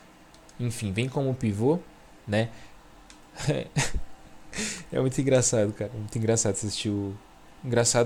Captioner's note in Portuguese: risadas